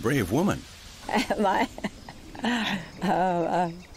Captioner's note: laughs